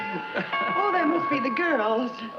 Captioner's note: Brad and Desmond chuckle; door bell rings